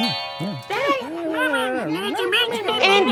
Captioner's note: Mimic humans in Derp-lish